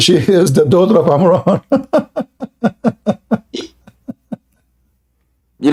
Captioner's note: Ketawa